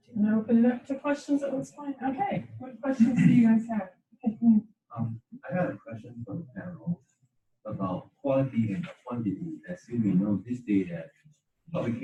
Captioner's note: coughing and indiscernible words